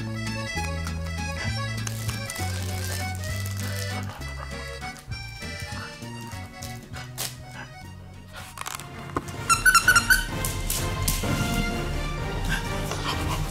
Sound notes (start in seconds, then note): 9.4 squeaky toy